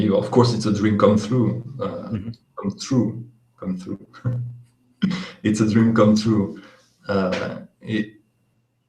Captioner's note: laughs